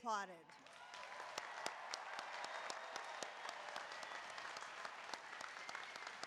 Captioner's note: applause